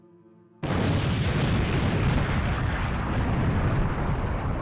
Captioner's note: explosion booms